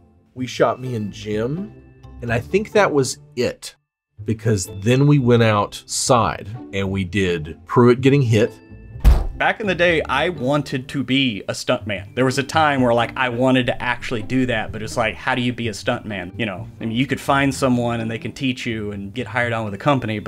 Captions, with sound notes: we shot me and Jim, and I think that was it. because then we went outside and we did Pruitt getting hit. [bang] Back in the day, I wanted to be a stuntman. There was a time where like, I wanted to actually do that, but it's like, how do you be a stuntman, you know? I mean, you could find someone and they can teach you and get hired on at a company.